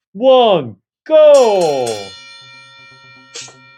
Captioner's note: bell ringing